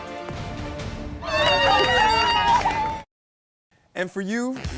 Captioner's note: cheering